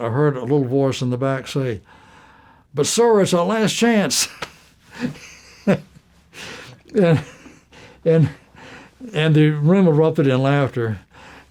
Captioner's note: laughter